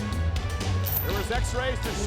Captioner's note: chain rattling